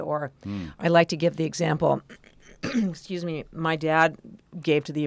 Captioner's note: cough